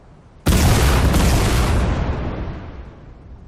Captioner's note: explosions